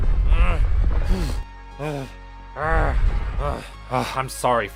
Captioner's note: huffing and puffing